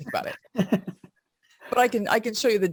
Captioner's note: laughs